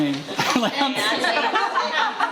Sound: laughing

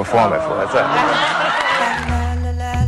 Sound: audience Awes

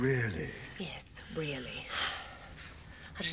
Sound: sighs

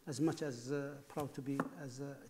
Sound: none

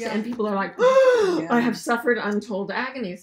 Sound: exaggerated gasp

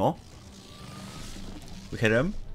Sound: zap

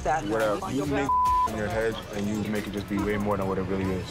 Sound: beep

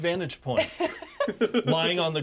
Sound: laughs

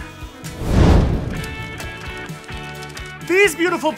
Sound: whoosh

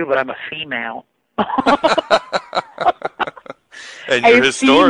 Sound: both laughing

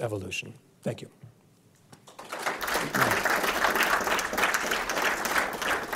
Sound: audience clapping

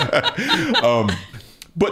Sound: laughs

